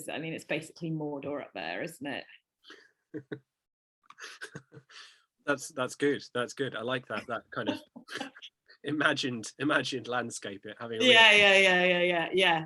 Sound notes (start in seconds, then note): 4.1 chuckles